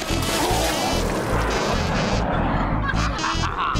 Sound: laughs

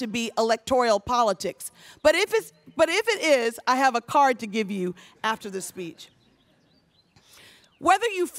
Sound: none

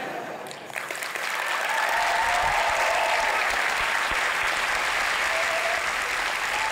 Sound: applause

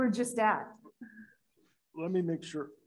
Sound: laughs

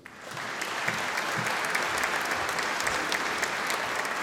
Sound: audience applauding

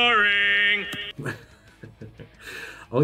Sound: laughs

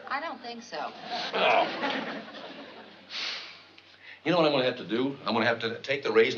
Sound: groans

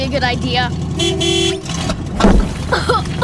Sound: honking; coughing

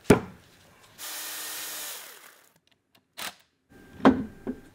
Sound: saw buzzing

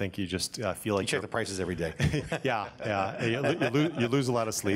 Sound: all laugh

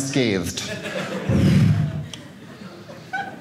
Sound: audience laughing

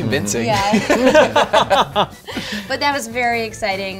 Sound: laughter

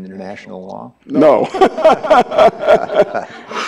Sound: laughs

